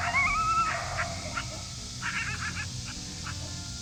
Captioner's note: screeching